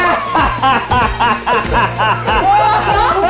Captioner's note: all laughing